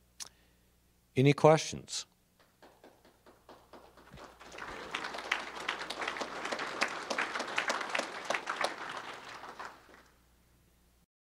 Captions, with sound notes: Any questions? (applause)